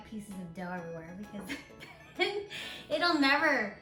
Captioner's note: laughing